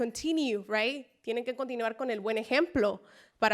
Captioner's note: spanish speech